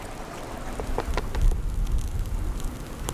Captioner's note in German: Leises Brutzeln